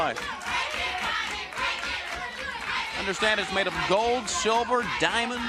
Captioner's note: crowd chanting